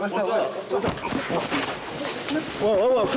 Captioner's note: scuffling